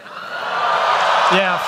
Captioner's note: cheering